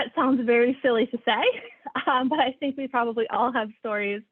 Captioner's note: laughter